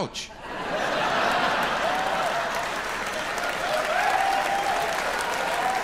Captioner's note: audience laughs and applauds